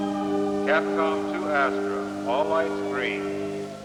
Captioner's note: man on PA